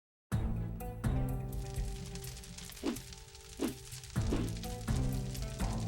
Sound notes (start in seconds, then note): 0.3 suspenseful music; 1.2 fire crackles